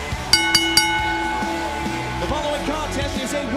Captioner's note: bell ringing